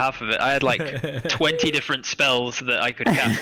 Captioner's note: laughs